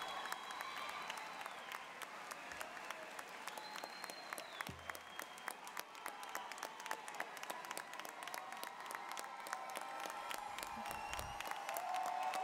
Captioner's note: applause, cheering continues